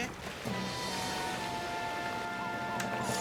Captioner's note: rain Gushing; siren Blaring